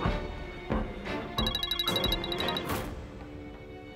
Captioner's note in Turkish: Telefon çalıyor